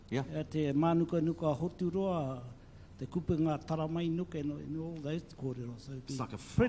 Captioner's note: speaks in foreign language